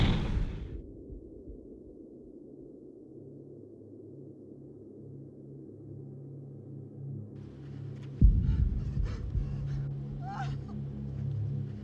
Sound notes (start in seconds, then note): 1.3 house thuds; 8.3 Dina sobs